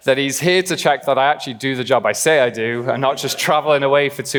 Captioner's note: laughing